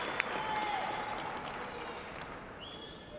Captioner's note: cheers and applause